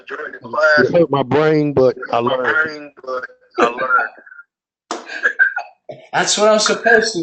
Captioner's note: laugh